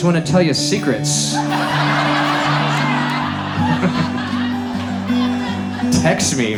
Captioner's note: audience laughs